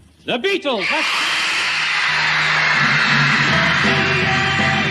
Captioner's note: women screaming